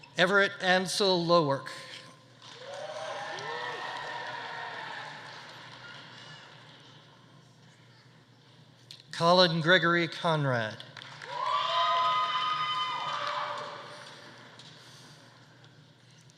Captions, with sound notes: Everett Ansel Lewark. (audience applauding) (audience cheering) Collin Gregory Conrad. (audience applauding) (audience cheering)